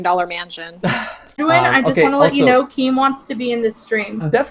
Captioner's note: laughs